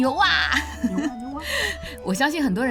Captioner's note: small voice